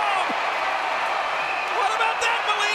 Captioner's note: audience cheering